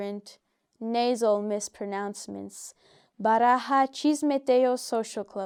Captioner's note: speaks in foreign language